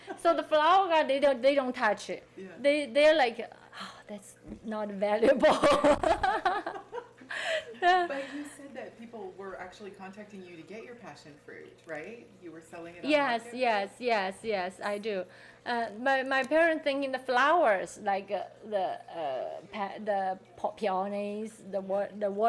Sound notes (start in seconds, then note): 0.0 people laughing; 5.3 laughing